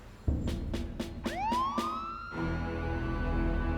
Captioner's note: sirens wailing